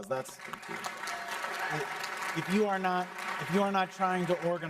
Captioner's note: applause